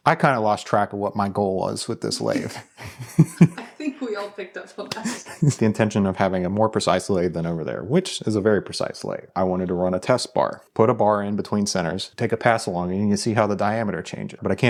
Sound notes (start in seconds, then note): 2.0 laughs; 2.1 wife laughs; 5.0 laughs